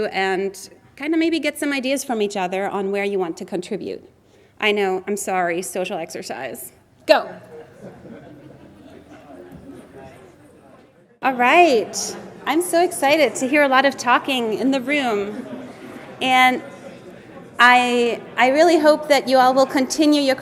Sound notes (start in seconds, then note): 7.8 audience members chattering